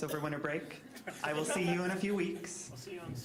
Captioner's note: all laughing